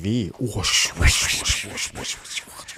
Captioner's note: whooshing